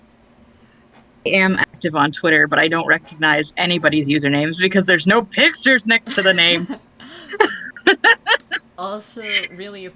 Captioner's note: laughs